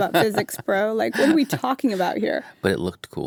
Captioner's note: laughs